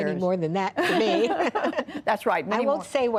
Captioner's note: laughter